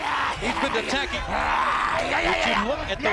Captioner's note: Braun growling